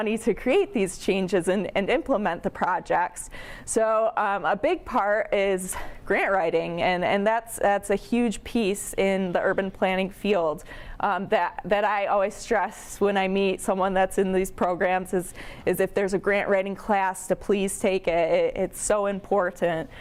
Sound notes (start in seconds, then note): none